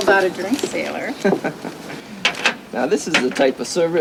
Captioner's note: Brad laughing